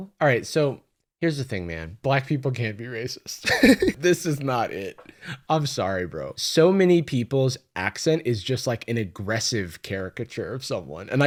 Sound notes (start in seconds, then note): 3.4 laughs